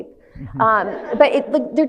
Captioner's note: audience laughs